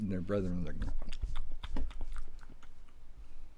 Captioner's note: tasty chomping